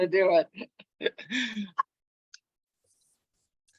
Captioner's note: laughs